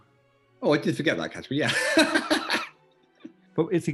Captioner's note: laughing